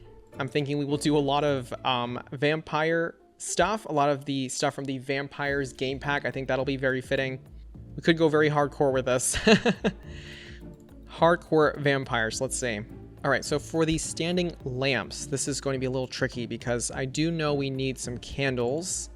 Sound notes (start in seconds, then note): 9.4 laughs